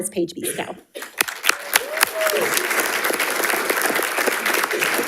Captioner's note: audience applauding